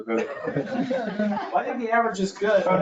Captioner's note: everyone laughing